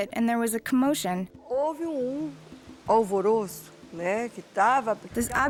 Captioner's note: speaking Portuguese